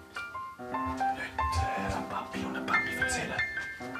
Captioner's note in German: Flüsternd